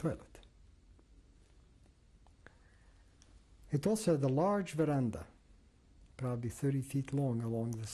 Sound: pauses for 3 seconds

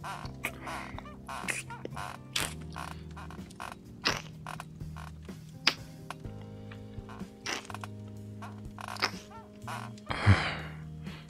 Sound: someone knocks on the door interrupting you two; groans

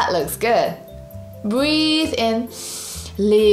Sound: breathes in deeply

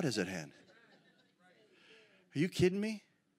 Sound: congregation shouts agreement

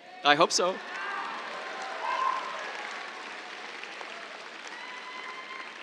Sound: scattered cheers, applause

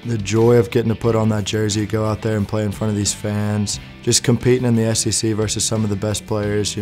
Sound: none

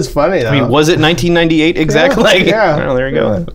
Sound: laughter

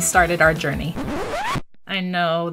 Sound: record scratch

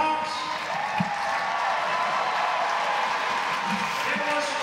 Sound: applause

